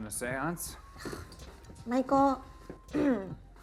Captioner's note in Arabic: تنهد; موسيقى إلكترونية رائعة